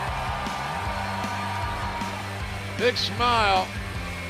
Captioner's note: cheers and applause